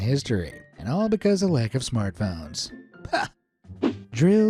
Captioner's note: chuckles